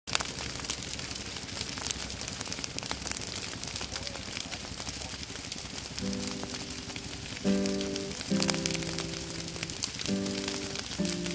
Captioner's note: fire crackling